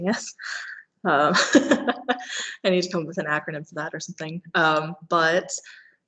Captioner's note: laughing